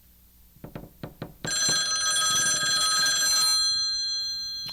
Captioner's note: phone rings